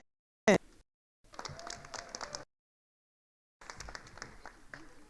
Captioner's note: attendees applauding